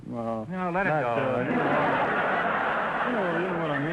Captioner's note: audience laughter